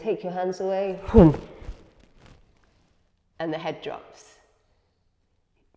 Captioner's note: exhales